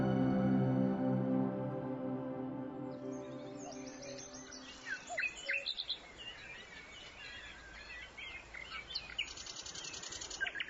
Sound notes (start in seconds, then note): 2.8 birds chirping